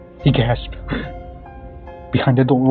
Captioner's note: gasp